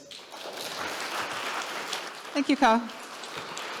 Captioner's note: audience clapping